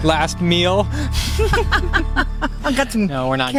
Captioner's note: both laughing